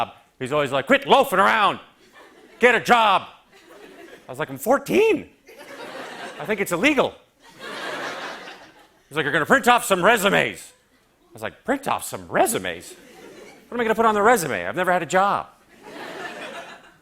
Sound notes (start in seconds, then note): 7.4 laughter; 15.7 light laughter